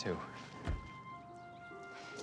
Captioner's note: door open close